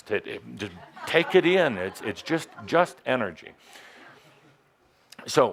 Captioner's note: laughter